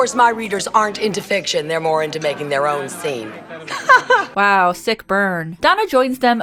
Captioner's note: giggles